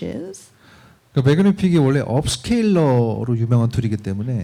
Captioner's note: speaking korean